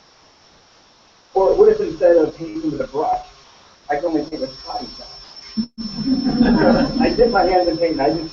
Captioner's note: laugh